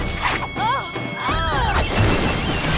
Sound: groaning

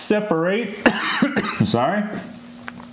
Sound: coughs

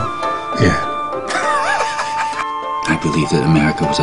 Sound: laughs

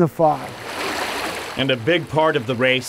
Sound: water flowing

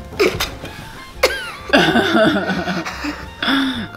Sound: laughing

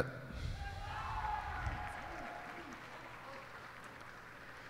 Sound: cheers and applause

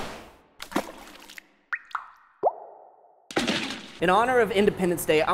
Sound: splashing and dripping

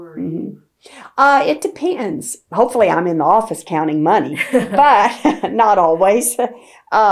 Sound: laughter

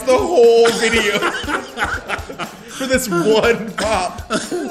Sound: laugh

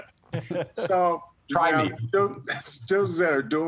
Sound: laughter

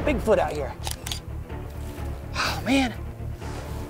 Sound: camera snapping

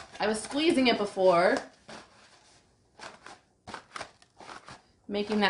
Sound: crunching

